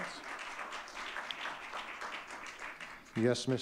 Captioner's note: audience clapping